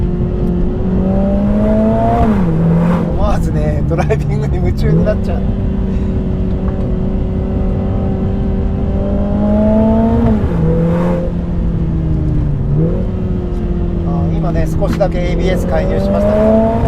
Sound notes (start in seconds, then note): 6.8 laughs